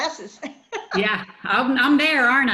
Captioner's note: laughs